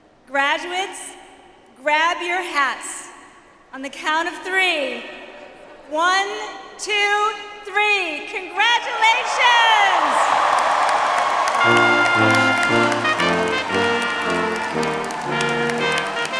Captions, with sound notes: Graduates, grab your hats on the count of three. One, two, three, congratulations. (audience cheers) (triumphant music)